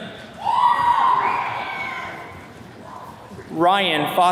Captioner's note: attendees cheering